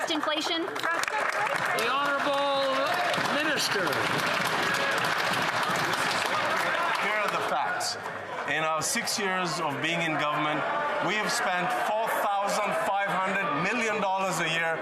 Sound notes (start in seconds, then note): 5.6 applause